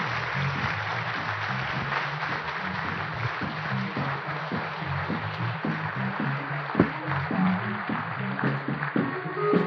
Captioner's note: applause